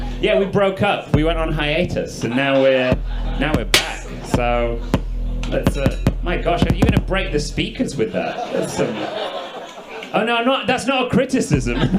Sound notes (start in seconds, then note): 7.8 audience laughs